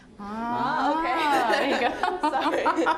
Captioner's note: all laughing